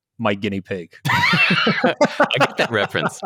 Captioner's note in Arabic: يضحكون